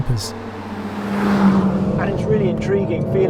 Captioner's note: car zooming